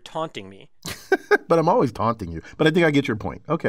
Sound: laugh

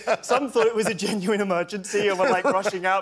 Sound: laughter

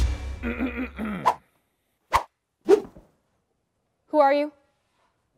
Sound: clearing throat

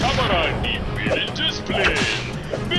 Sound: whip cracks; fire crackles

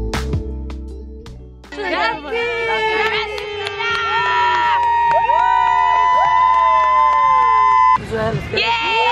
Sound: cheering

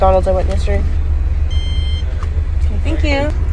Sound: card/transaction beeps

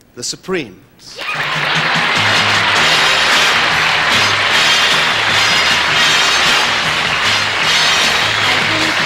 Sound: applause

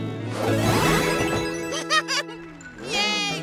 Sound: laughing

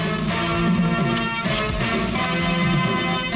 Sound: camera clicks

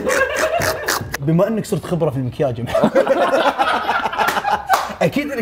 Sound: laughs

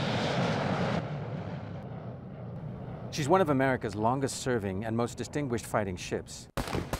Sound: aircraft noise

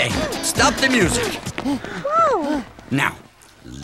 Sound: panting

